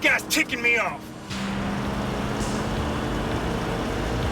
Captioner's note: engine revving